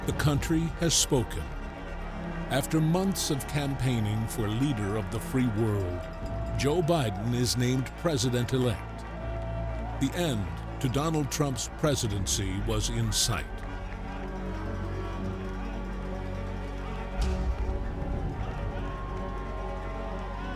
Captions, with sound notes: the country has spoken. After months of campaigning for Leader of the Free World, Joe Biden is named President Elect. The end to Donald Trump's presidency was in sight. (crowd cheering)